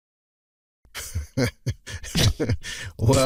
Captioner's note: painfully long pause; conspiratorial laughs; scoffs again